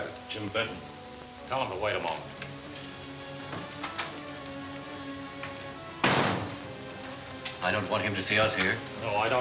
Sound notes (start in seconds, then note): 5.8 door closing